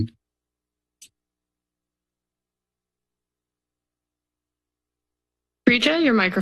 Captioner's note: silence